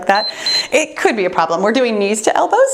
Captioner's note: timer beeps